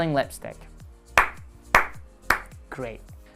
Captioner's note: clapping